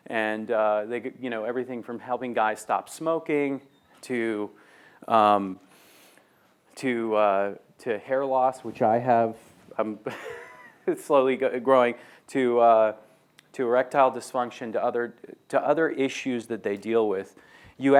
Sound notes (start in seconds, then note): 10.1 laughs